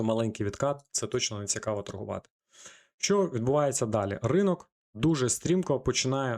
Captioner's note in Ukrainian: сопіння